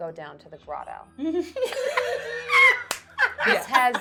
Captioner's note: laughing